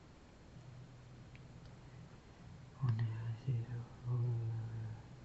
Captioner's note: foreign language